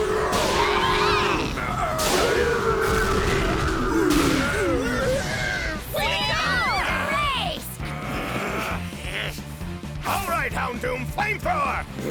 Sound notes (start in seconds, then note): 0.0 groaning; 6.8 Pokémon cheering; 7.9 all grunt